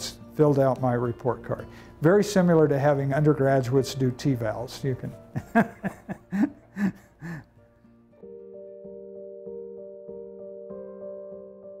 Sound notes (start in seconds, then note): 5.4 laugh